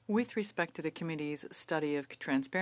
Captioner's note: speaking French